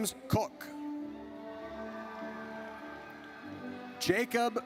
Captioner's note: audience cheers